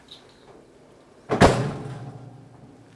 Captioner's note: oven door slams shut